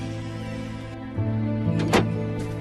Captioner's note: door shuts